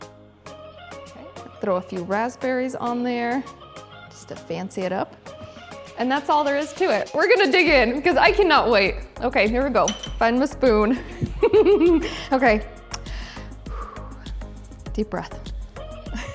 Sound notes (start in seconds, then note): 11.0 giggling; 13.4 exhaling loudly